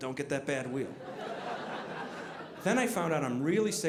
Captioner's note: audience laughing